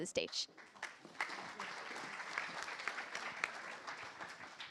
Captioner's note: applause